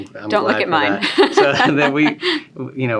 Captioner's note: laughing